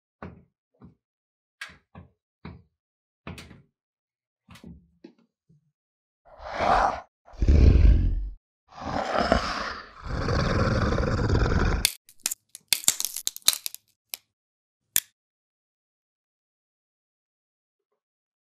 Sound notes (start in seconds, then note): 7.2 exhales; 7.3 inhales; 8.7 growls; 8.8 inhales; 11.4 bones snap